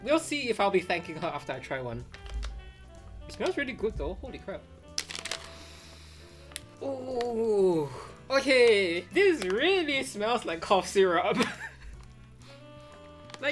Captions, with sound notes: We'll see if I'll be thanking her after I try one. It smells really good though, Holy crap. (sniffs deeply) Oh. Okay, this really smells like cough syrup. (chuckles)